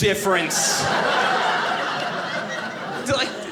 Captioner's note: audience laughing